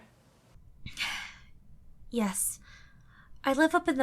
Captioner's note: sigh